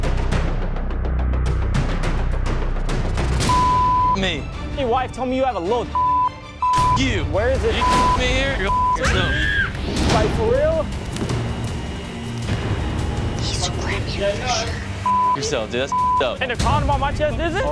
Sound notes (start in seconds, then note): 9.1 screams; 13.8 whispers